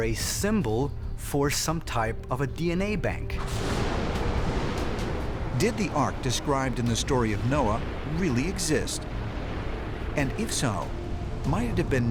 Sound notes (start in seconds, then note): 3.0 thunder rumbling